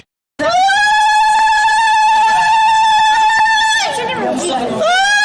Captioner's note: high-pitched screaming